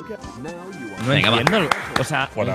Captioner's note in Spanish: aplaude